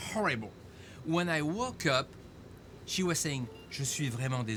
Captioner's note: speaks in foreign language